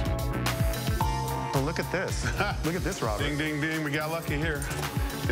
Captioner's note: laughs